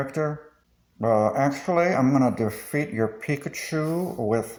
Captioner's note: reddit mod voice